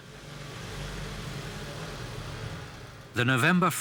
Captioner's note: engines roaring